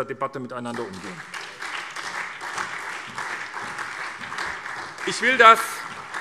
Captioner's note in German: Beifall SPD